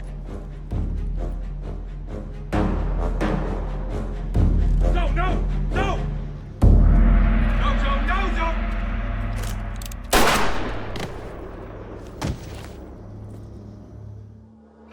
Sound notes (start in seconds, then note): 0.1 suspenseful music; 7.1 dramatic music; 10.1 gun bangs; 12.0 body thuds